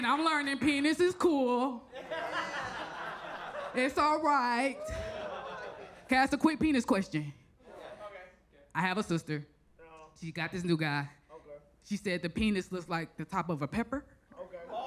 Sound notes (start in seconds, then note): 1.9 audience laughs